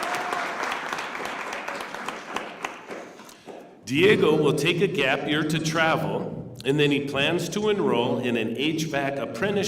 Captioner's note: cheers and applause